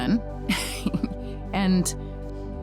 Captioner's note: laughs